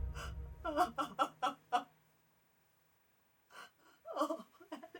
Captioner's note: Frances sobbing